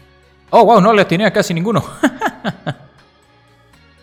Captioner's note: laughs in Spanish